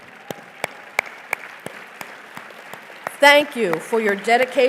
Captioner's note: applause